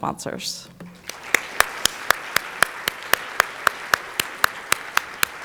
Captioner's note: audience applauding